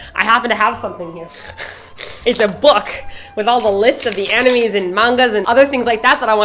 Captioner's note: she snorts